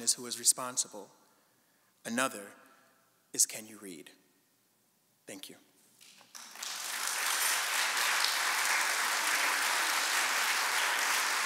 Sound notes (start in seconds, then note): 6.3 audience applauding